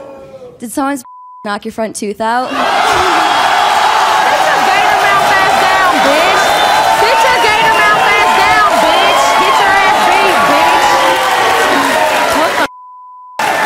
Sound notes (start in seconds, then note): 11.0 audience clapping